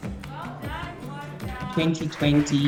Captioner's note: class clapping